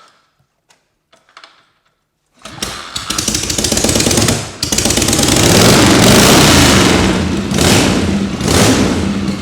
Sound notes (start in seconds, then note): 2.4 engine starting; 5.9 motor running